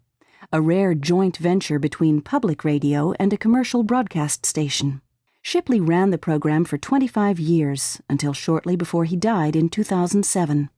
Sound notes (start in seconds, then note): none